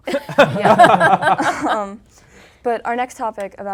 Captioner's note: laughing